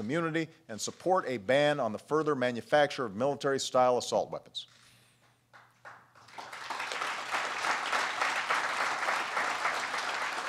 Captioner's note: applause